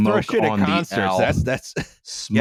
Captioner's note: laughs